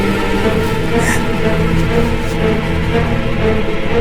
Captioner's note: gasping